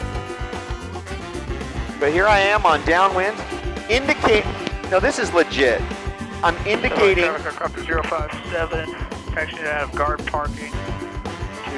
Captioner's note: radio traffic interruption